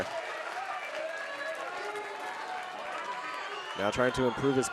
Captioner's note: audience cheering